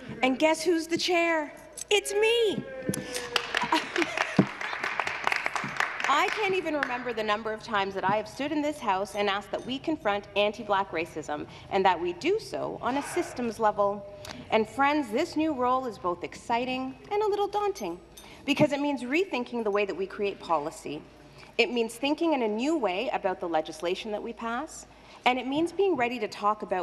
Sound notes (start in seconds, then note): 6.6 some Applause